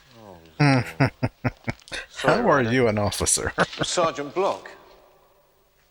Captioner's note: chuckling